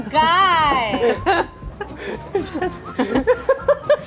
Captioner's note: laughter